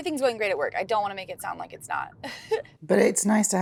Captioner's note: chuckles